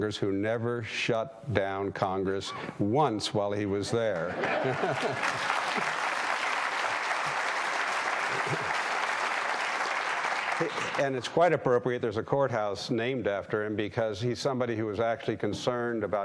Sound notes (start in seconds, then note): 4.4 audience applauding